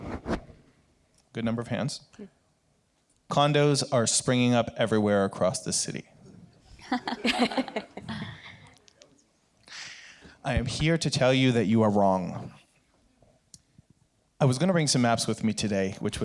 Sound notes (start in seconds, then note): 6.7 chuckle